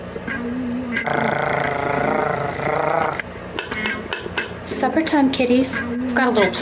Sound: purring

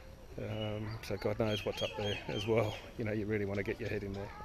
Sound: chuckles

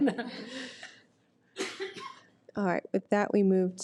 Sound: board laughs

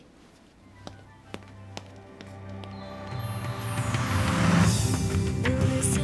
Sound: uplifting music; footsteps thudding off

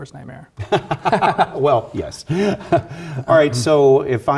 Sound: laugh

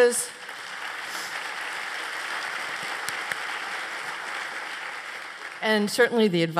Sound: applause

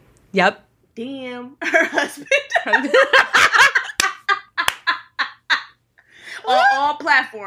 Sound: both laughing

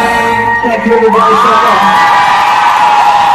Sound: crowd cheering

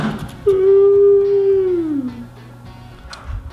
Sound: yawning

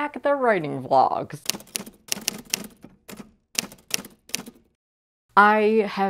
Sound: typewriter typing

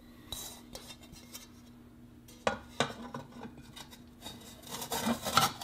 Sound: scraping and clacking

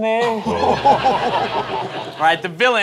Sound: laughter

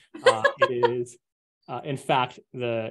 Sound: laughs

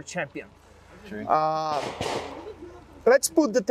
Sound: gunfire popping

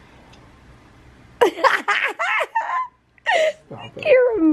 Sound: laughing

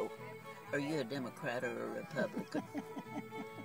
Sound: continues chuckling

